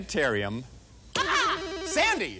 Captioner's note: rings